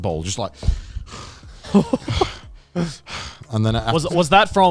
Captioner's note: groaning